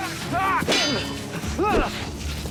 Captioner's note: knives clashing